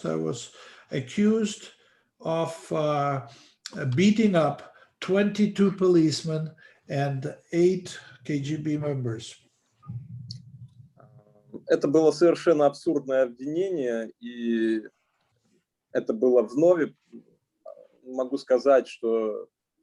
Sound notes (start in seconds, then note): 11.9 speaking Russian language